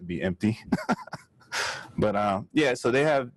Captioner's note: laughs